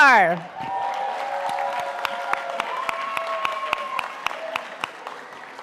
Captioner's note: audience applauding